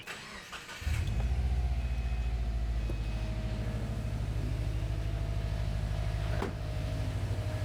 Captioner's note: vacuum whirring